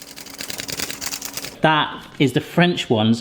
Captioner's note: shaker rattles